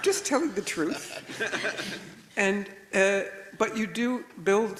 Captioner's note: everybody laughs